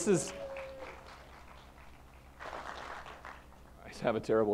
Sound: applause

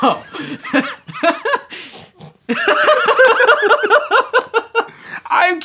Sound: laughing

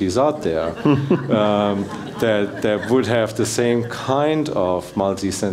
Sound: laugh

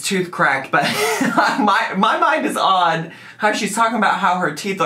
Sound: laughs

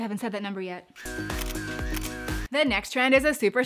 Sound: camera shuttering; upbeat funk music

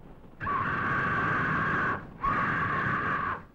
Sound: bird screeching

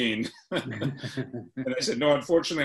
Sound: laughs

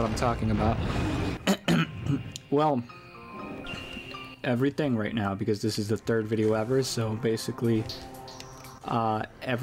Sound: clears throat

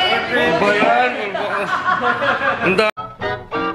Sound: laughs

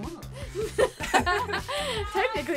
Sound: both laugh

